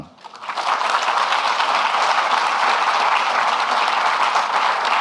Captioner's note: audience clapping